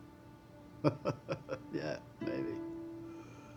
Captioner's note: laughing